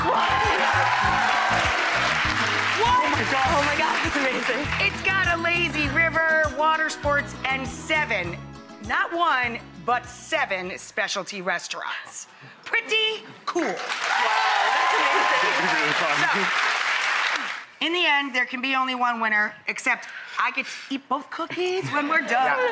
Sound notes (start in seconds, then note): 0.0 audience cheering; 13.9 audience cheering